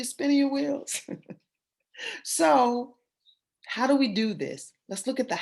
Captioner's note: laughter